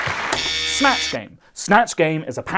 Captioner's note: buzzer